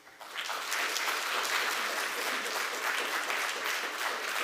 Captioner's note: applause